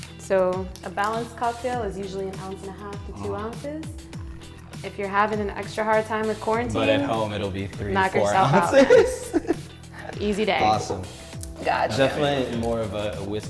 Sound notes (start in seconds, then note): 8.2 laughs